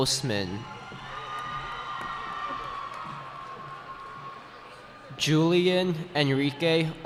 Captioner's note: cheering